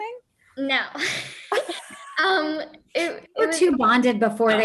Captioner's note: chuckles